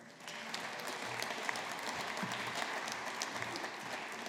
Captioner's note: audience applauding